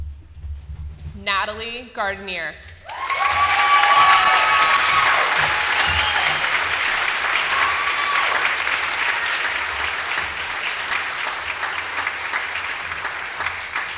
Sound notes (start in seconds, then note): 7.7 applause